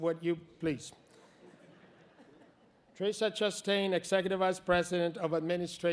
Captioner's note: laughter